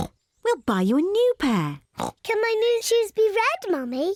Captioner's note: oinks